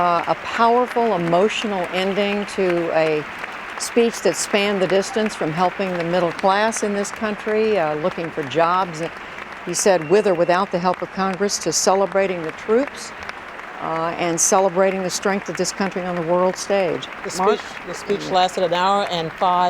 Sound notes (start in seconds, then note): 12.4 applause